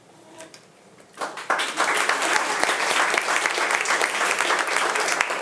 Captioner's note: attendees applauding